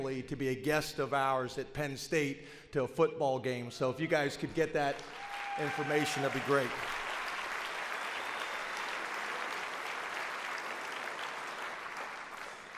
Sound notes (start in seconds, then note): 7.9 audience applauds